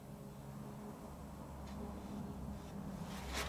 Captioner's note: scratching